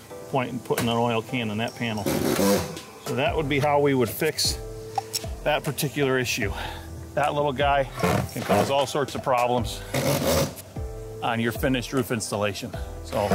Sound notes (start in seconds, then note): 0.0 soft music; 2.0 drill rattling; 6.5 man exhaling; 9.9 drill rattling